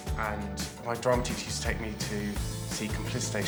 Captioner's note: none